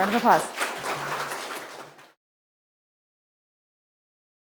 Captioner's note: audience applauding